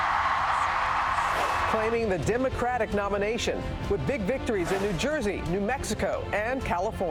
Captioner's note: cheers and applause